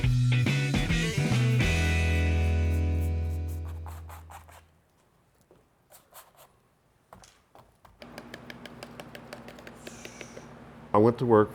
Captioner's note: brush scraping, tapping